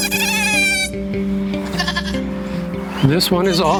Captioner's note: kid fussing